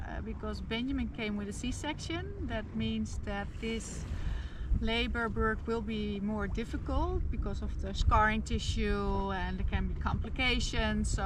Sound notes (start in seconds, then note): none